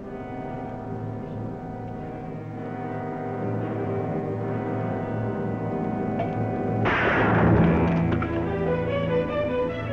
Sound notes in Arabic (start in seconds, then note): 6.8 طلقة نارية